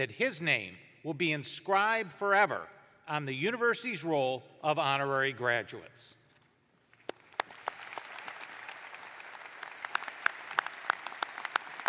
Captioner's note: applause